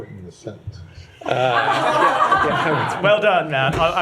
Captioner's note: laughter